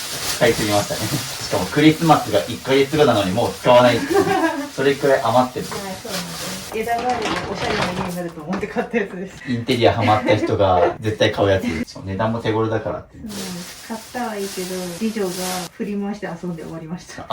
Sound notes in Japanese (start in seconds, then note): 3.9 笑い